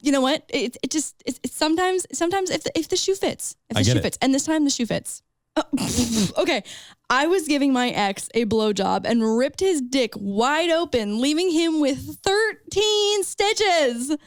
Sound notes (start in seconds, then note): 3.8 laughs